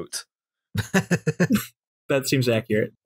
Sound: laughter

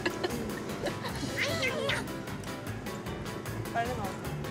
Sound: nom nom

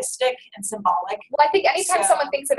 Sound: voiceover

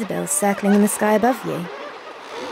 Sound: seabirds calls

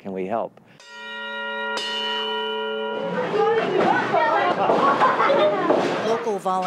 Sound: bell rings

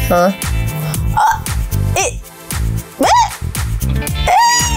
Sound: straining

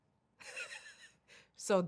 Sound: Naomi laughing

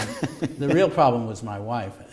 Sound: chuckle

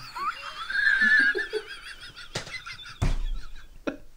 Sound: Muttley Laughing

